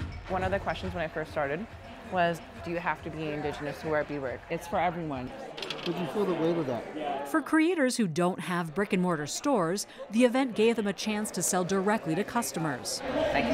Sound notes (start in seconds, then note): none